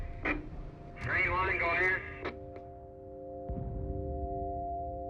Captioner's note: radio chatter